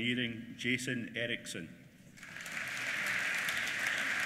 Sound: applause

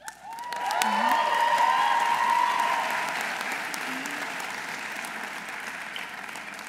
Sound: audience applauding; audience cheering

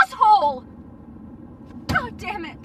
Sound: wind blowing

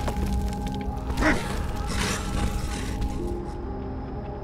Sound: Grimm growling, people screaming

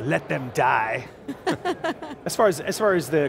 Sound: laughs

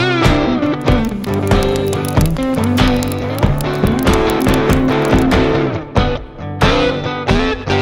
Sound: fire crackling

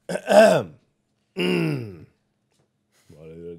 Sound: throat clearing

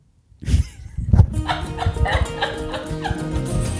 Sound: laughing; upbeat music

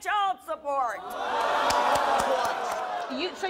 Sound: audience boos

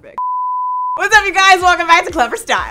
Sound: beeping

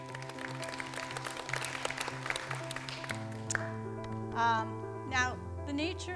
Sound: audience applauding; bright music

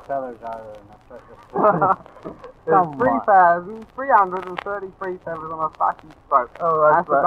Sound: laughing

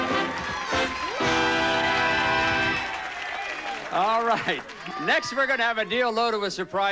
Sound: audience applauding

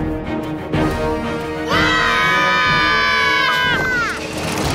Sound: screaming

